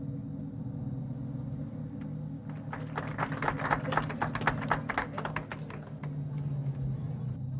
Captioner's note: crowd cheers